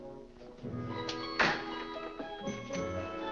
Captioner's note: door closes